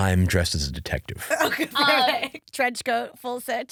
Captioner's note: laughing